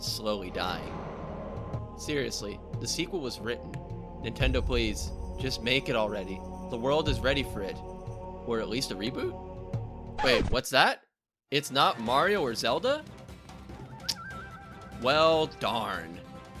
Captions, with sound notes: Slowly dying Seriously The sequel was written Nintendo please... Just make it already The world is ready for it! Or at least a reboot? Wait, what's that? It's not Mario or Zelda? *Tsk* Well darn!